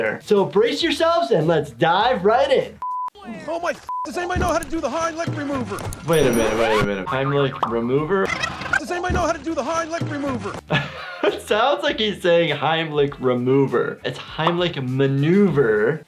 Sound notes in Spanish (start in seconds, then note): 8.6 la cinta se rebobina; 10.6 risas